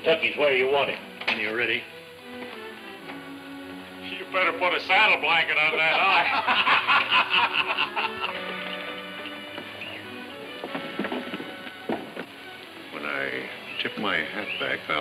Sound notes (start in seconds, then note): 5.5 men laughing